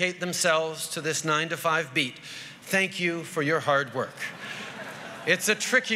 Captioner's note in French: Rires